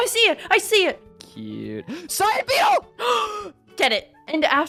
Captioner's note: gasp